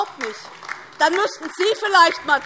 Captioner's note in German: Beifall DIE LINKE